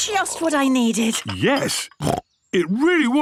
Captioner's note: snorts